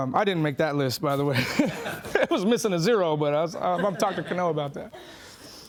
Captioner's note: laughing